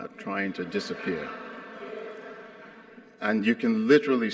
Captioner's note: audience laughs